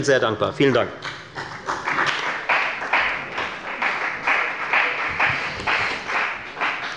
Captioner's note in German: Beifall bei der FDP